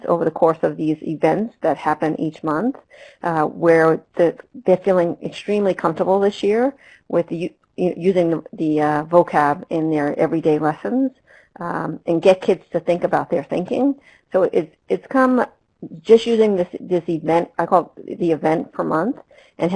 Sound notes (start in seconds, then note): none